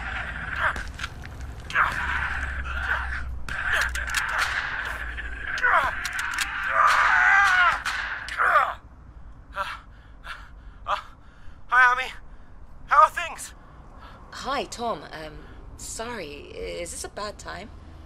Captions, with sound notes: [violent noises from phone] [gunshots] [panting] Hi Ami!.. How are things!? Hi Tom. Sorry.. is this a bad time?